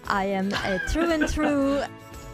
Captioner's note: chuckles